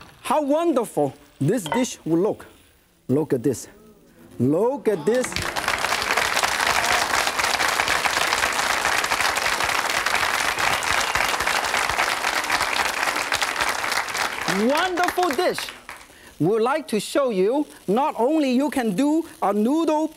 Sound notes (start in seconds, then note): 5.2 audience claps